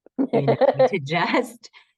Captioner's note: laughter